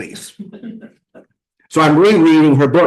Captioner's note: laughter